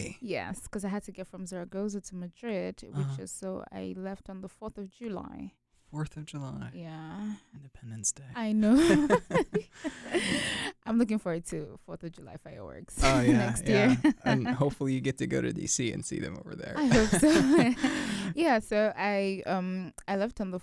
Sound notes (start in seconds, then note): 8.6 both laugh; 16.8 both chuckle